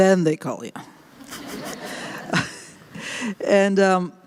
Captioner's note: laughter